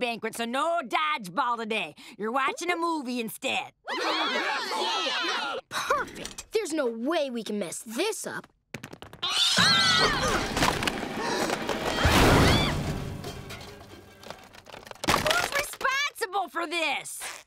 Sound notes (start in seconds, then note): 3.9 cheering; 9.2 screaming